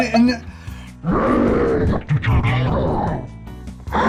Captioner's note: growling angrily